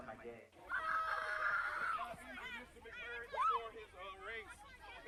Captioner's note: kids yelling